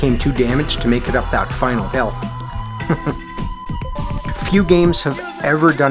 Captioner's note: chuckles